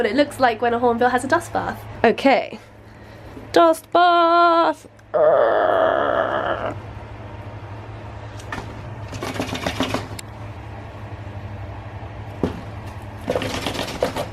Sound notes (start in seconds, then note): 5.1 grumble